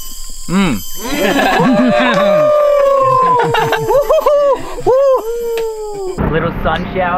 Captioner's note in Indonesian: laugh